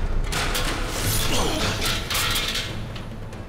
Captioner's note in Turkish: Kesme sesi